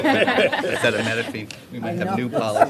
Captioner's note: laughter